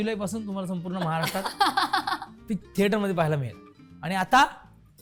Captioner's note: chuckles